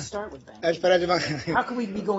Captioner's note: laughter